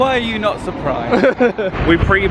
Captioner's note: laughs